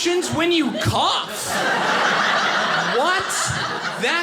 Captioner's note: audience laughing